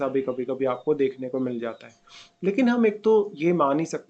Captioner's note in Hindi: नाक से की जाने वाली आवाज़